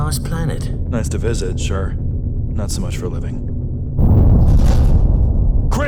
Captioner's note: something explodes outside of the ship